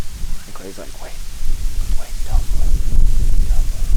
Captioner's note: whispering